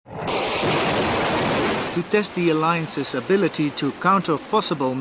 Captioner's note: missile launch